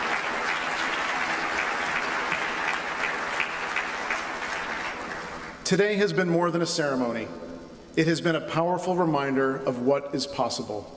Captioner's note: applause